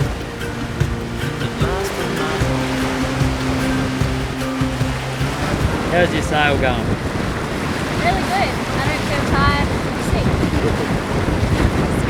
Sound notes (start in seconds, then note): 2.4 wake splashing